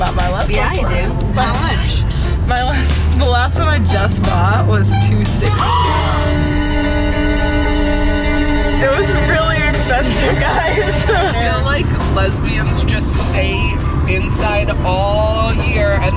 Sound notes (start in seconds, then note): 5.6 gasping; 6.7 dramatic music